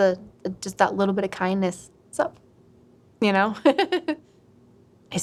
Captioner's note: laughs